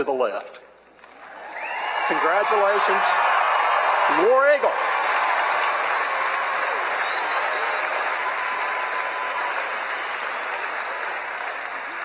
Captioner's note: loud cheering and applause